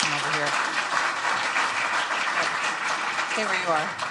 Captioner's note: applause